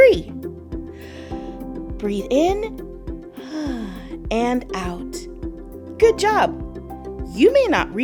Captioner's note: inhale; exhale